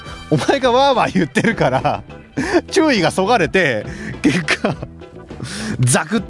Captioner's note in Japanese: 笑い